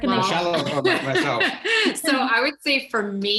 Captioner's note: both chuckle